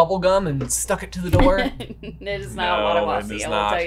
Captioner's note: chuckles